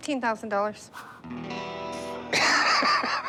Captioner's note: laughs